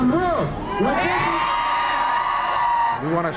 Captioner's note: cheering